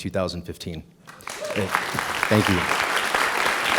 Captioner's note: applause